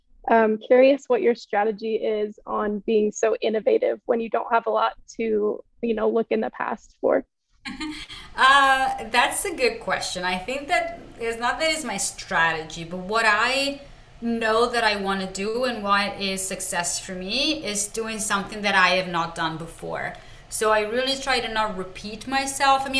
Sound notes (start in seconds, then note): 7.6 chuckles